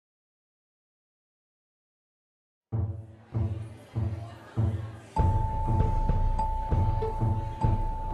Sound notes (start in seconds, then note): 0.6 audience murmuring; 0.6 upbeat music